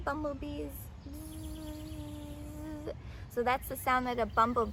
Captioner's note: buzzing sounds